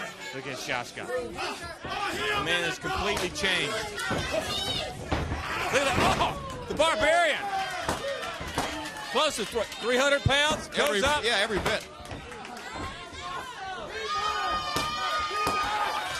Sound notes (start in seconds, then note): 4.6 crowd chatter; 10.8 crowd chatter; 14.6 crowd cheering